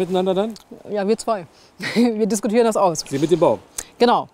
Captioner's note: laughs